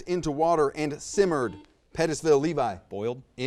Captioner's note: buzzer buzzes